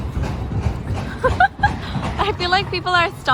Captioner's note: laughs